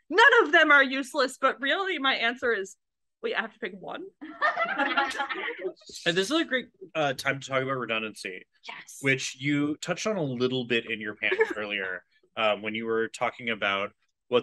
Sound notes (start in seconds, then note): 4.3 AUDIENCE laughs